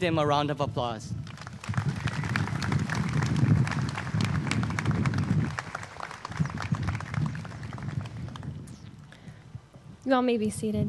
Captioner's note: applause